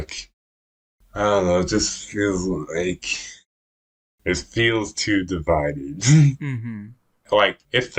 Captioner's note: laughs